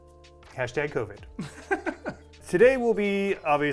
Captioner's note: chuckling